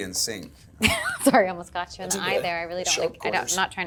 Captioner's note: laughs